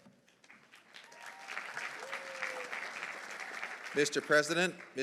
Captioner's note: audience applauding